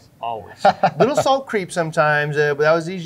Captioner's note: laughing